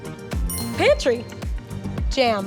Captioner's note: bell chimes